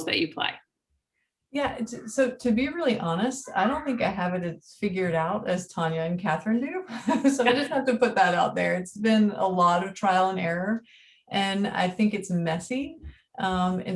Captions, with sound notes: that you play. - Yeah. So to be really honest, (child shouting) I don't think I have it as figured out as Tonya and Katharine do. (chuckles) So I just have to put that out there. It's been a lot of trial and error and I think it's messy.